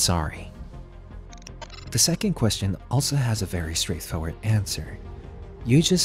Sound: glitch sound effects

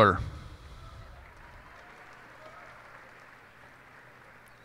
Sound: cheers and applause

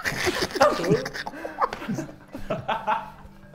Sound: laughs

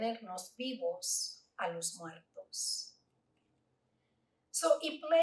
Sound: Spanish

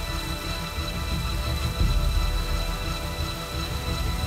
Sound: sound of waterfall

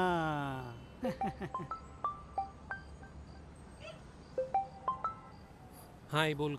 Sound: phone ringing

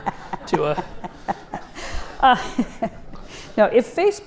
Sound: audience laughs

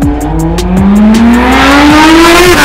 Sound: engine roaring

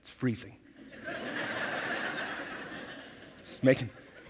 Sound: audience laughing

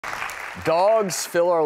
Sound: applause

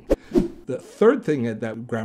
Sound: air whooshing

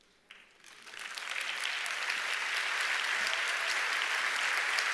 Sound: audience applauds

